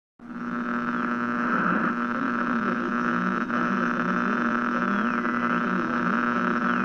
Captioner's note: radio static fx